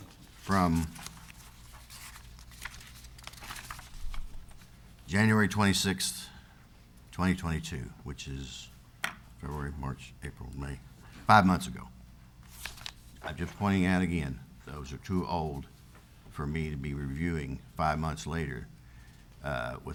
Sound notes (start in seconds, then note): 3.4 papers rustles